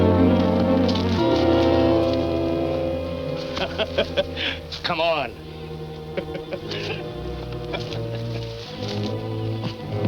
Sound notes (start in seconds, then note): 3.3 laughs; 6.8 soft ominous music